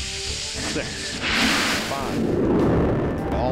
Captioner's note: roar of engines igniting